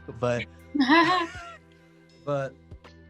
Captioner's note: laughing